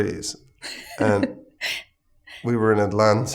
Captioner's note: laughing